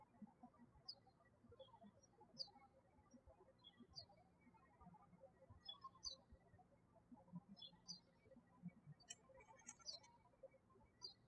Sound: birds chirping

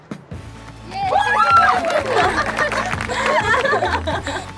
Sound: team cheers

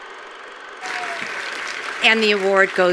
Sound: attendees applauding

